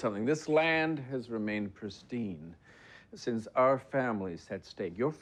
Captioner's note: none